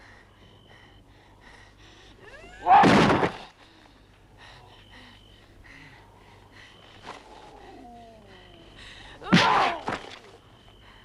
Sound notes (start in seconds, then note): 2.7 Hundra grunts; 2.7 Torente shouts; 4.3 Hundra panting; 9.0 Hundra grunts; 9.4 Torente groans